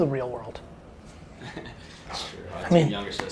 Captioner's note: laughs